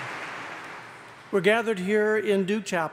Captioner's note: applause